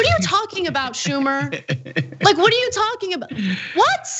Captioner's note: laugh